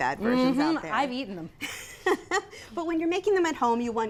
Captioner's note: laughs